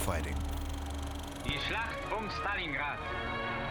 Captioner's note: German dialogue